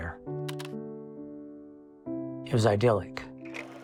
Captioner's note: camera clicking